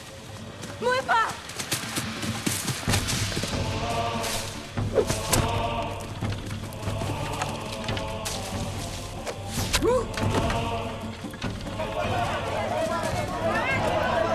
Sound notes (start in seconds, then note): 9.3 grunts